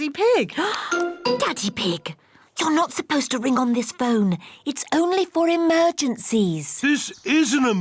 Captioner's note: gasps